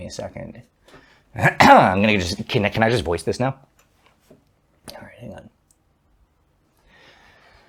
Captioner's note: clears throat